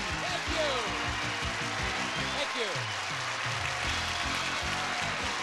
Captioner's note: audience cheering